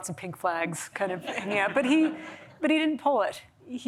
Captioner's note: laughter